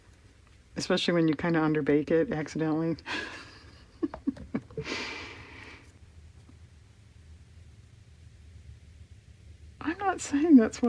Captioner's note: laughs